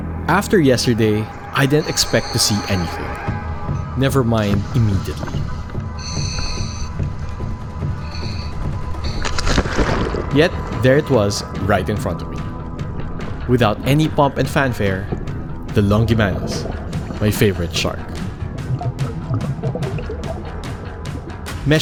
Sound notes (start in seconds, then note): 0.0 suspenseful music; 6.2 air hisses; 6.2 suspenseful drumming music; 9.4 water splashes; 18.5 upbeat music; 19.5 bubbles gurgling